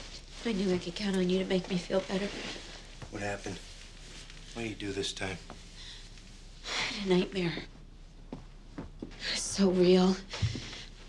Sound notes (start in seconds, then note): 6.3 sighs